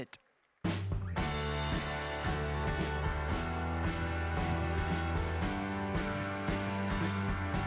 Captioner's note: applause